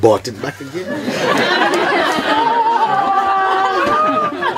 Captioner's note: more laughter